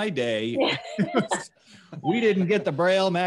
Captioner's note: laughs